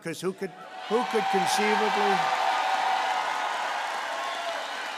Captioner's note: applause